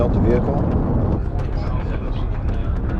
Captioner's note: rocket engine roaring